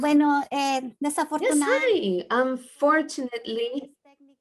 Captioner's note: speaking in Spanish